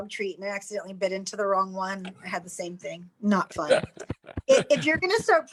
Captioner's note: laughs